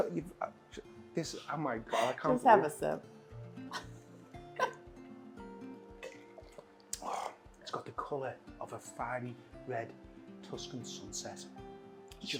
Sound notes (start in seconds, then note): 6.1 laughs